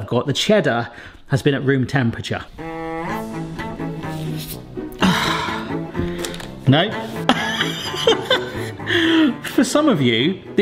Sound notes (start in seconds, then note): 3.0 whimsical music; 4.9 gasps with exertion; 7.2 laughs